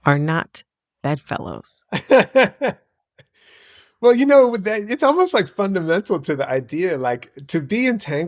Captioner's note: laughter